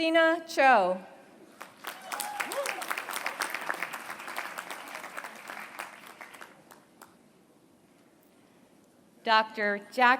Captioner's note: applause